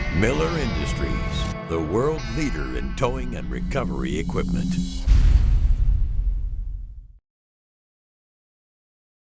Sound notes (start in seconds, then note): 4.8 logo thudding